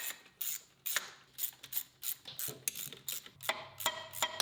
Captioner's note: tool rattling